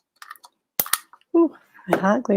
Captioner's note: glue gun clicking